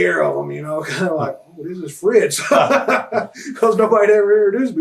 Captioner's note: laughs